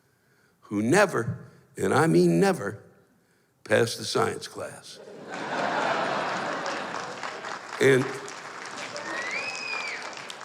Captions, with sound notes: who never, and I mean never, passed a science class. [laughter] And...